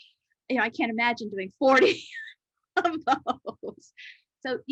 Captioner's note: laughs